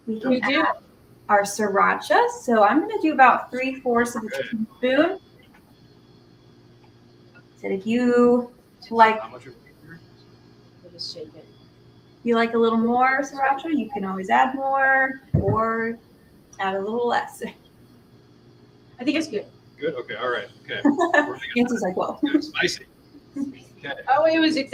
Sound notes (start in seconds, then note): 20.8 laughter